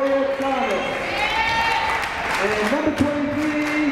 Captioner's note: crowd cheering